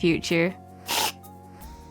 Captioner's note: squirt